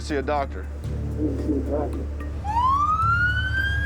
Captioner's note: siren blaring